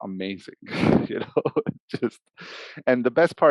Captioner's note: laughs